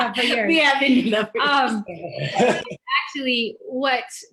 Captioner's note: laughs